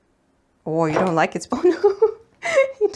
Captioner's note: giggles